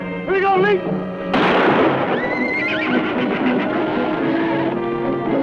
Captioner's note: gunshots